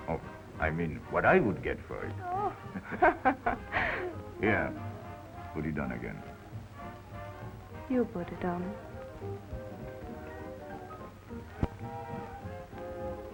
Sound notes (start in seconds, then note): 2.2 laughs; 9.9 cheerful jazz music